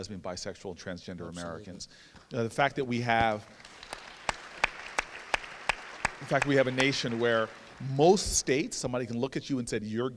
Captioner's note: applause